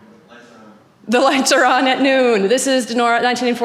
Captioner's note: chuckles